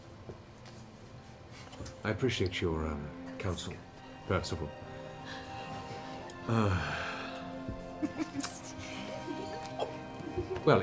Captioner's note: sighs